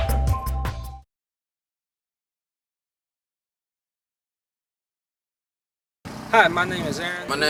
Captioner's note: silence